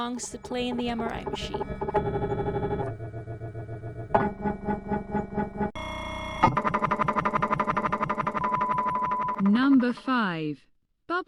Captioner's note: loud MRI machine banging noises